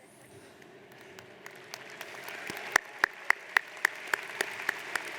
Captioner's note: audience applauds